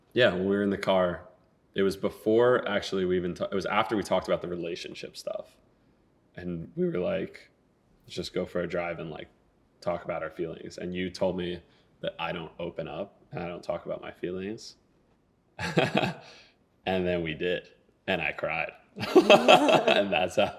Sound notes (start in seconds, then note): 15.6 laughing; 19.0 both laughing